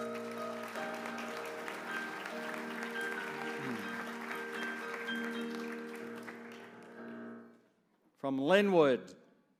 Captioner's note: applause